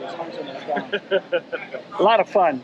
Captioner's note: laughing